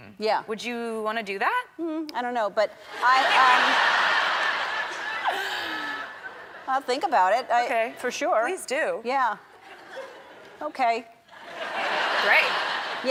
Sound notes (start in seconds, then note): 3.0 and the crowd laughing hysterically; 3.0 the crowd laughing hysterically; 9.6 crowd members laughing